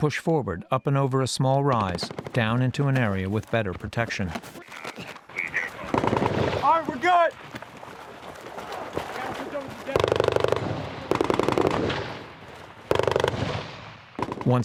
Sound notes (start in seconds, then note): 8.6 gunfire